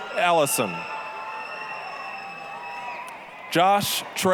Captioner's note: applause, cheering